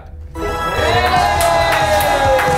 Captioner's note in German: Jubel, Applaus